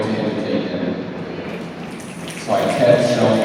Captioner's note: snaps